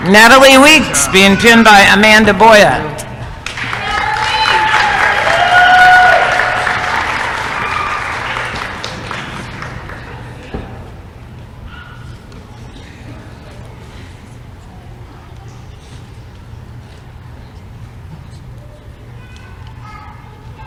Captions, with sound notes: NATALIE WEEKS being pinned by Amanda Boyat [applause & cheering]